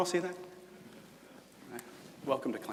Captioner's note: murmured agreement from audience